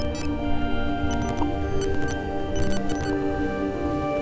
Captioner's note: glitching distortion